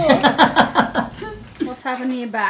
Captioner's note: both laugh